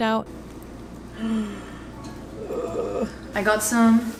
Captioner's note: groans